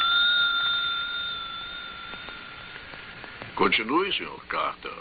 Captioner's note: bell ringing